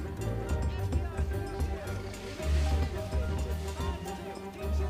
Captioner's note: man shouting